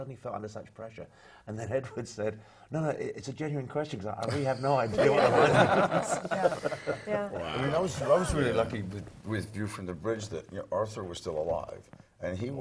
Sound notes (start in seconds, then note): 4.9 laugh